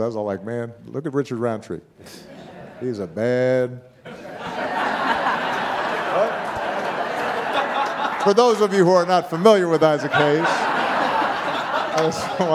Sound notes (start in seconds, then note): 4.0 audience laughing